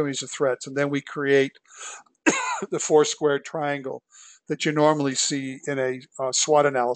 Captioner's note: cough